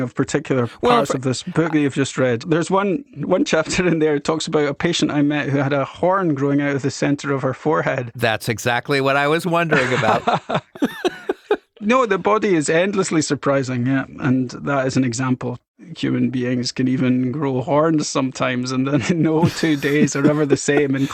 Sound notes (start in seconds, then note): 9.7 both speakers lauging